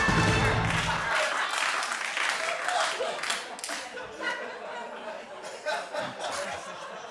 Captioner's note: laughter